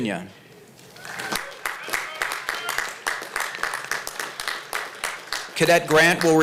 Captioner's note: applause